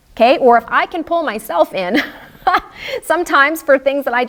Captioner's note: laughs